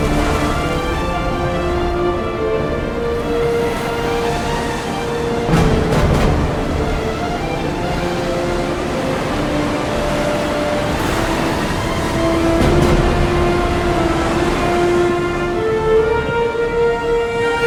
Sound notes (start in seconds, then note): 0.1 water splashing; 11.1 waves crashing; 13.2 intense music continues